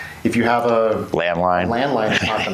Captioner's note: laughs